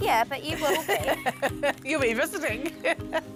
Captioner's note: laughing